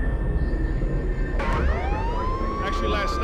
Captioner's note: police siren blaring